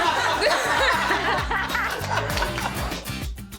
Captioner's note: laughter